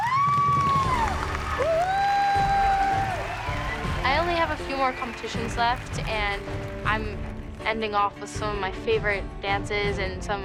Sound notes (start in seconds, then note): 0.0 music ends, crowd cheering; 2.5 whooping